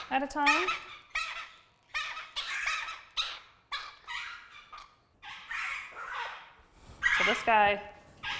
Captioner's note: bird squawking